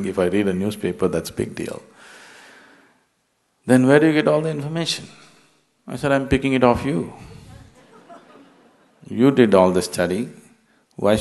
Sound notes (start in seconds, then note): 7.2 laughter